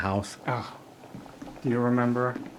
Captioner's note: Jesse exhales